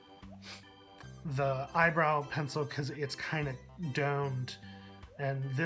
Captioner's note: brush